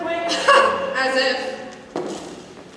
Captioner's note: scoffs